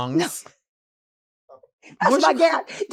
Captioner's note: Marguerite laughing